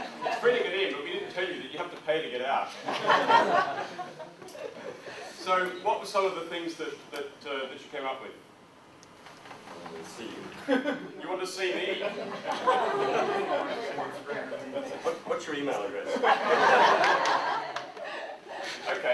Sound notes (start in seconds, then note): 2.7 audience laughs; 5.5 audience chuckles